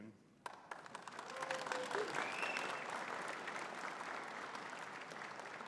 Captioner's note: audience cheering and clapping